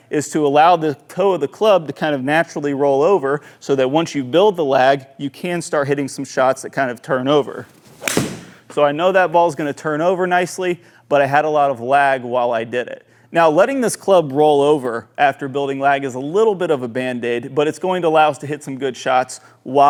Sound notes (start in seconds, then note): 7.6 club smacking